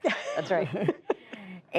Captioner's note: laughter